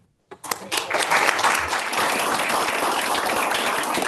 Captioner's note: audience claps